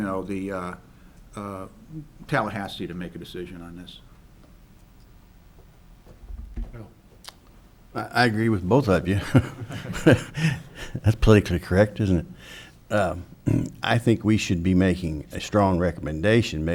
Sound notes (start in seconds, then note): 9.2 chuckles